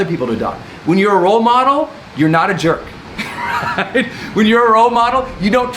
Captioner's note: laughs